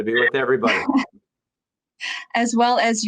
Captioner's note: chuckling